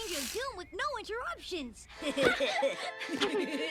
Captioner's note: laughter